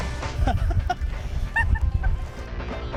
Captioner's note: she laughs